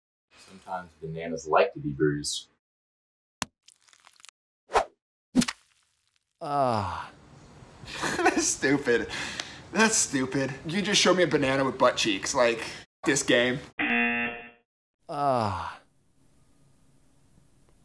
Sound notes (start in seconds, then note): 3.6 squish; 4.7 swish; 6.3 banana moans; 7.7 laughs; 13.7 banana moans; 13.8 buzzer